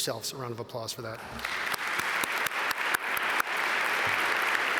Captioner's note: audience applaud